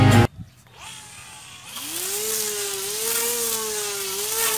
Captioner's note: grass cutting machine